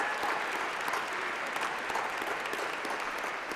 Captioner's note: applause